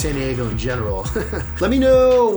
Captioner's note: chuckles